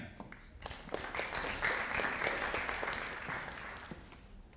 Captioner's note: audience applauding